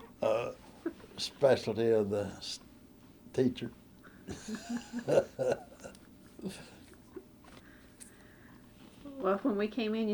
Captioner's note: laughter